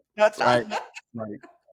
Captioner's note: laughter